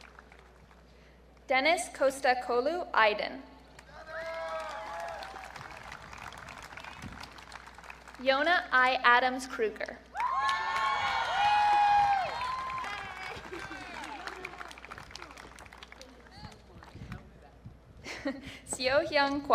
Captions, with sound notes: Dennis Kostakoglu Aydin. (audience cheering) Iona I. Adams Kruger. (audience cheering) Seo Hyung Kwak.